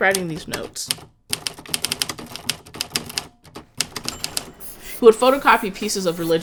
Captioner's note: typewriter keyboard thumping